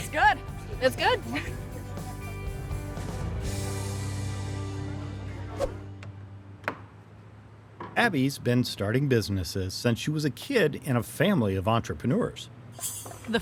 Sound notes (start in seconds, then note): 1.7 bright upbeat music; 5.5 air whooshing